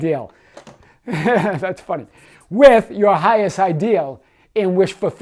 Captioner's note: laughs